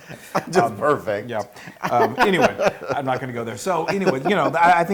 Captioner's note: laugh